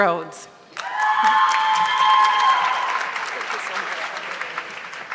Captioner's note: audience clapping